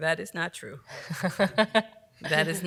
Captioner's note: laughs